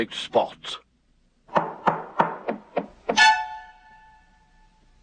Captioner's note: knocking; hammering